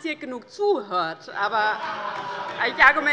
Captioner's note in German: Große Heiterkeit